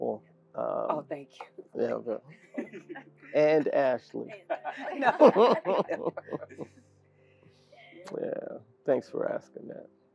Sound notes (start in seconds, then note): 4.1 laugh